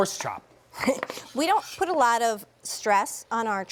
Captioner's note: chuckling